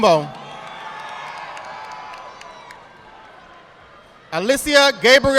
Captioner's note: audience applauding